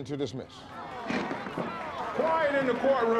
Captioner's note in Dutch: applaus